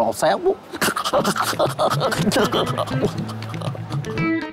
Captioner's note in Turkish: Gülme sesi